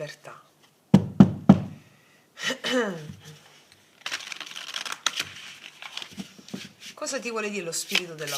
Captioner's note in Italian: schiarire la voce